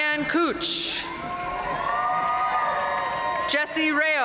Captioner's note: audience cheering and applauding